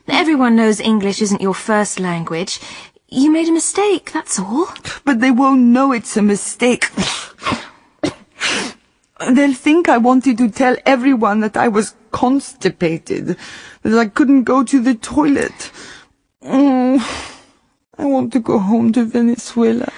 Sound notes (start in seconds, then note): 6.9 she sneezes